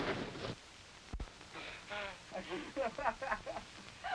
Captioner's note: laughter